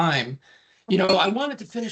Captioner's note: chuckling